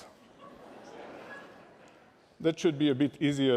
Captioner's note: laughter